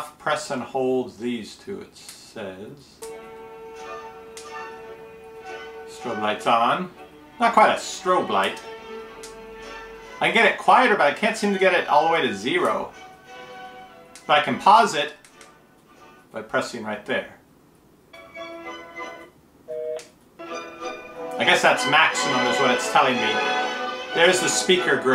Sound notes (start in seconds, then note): 19.7 beep